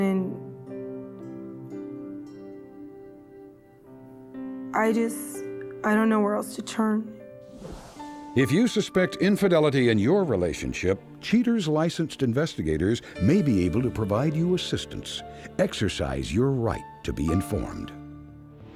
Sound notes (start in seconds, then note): none